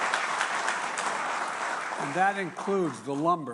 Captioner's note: applause